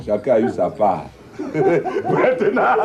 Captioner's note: laughters